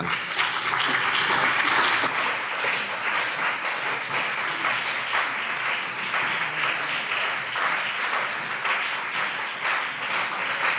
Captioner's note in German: Beifall BÜNDNIS 90/DIE GRÜNEN und CDU